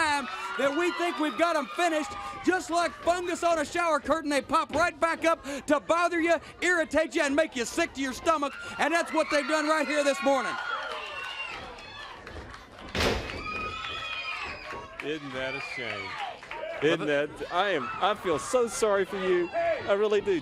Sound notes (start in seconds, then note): 10.4 crowd cheering